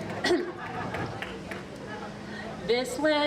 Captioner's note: audience applauding